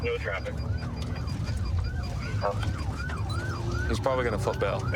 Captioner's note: sirens wailing